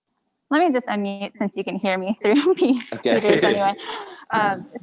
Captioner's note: laughs